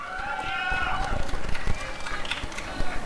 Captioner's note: applause and cheering